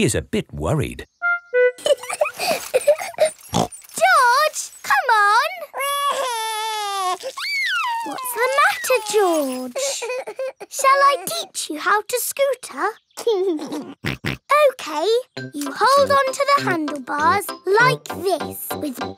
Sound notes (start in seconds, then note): 1.8 laughs and snorts; 5.5 crying; 13.5 laughs and snorts